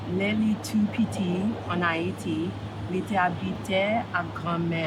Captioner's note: reading in Creole